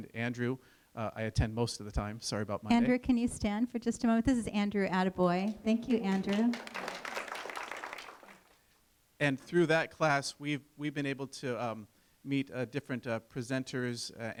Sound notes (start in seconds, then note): 5.5 applause